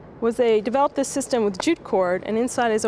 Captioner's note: none